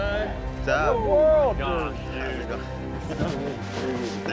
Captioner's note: overlapping chatter